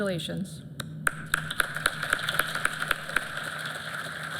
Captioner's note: applause